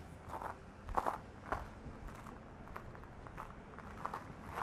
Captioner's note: shoes crunching on gravel